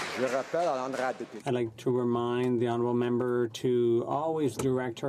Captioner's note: some Applause